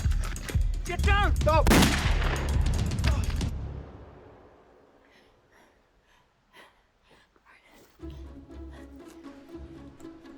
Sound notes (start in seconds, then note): 1.6 gun shot; 7.6 Connie pants